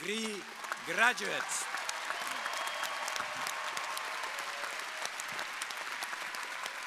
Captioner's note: crowd applauding; crowd cheering